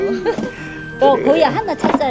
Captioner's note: both laughing